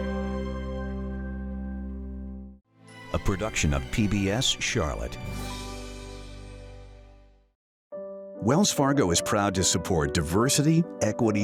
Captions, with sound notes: - [Voiceover] A production of PBS, Charlotte.